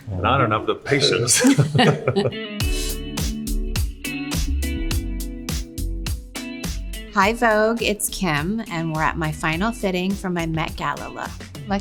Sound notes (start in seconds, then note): 0.9 both laughing